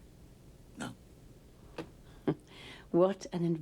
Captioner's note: chuckles